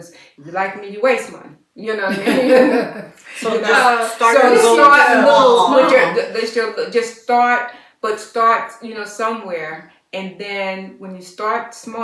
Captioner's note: laughter